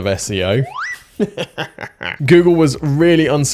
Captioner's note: laughter